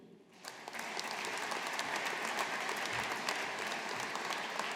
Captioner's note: audience applauding